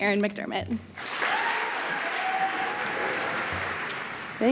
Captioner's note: applause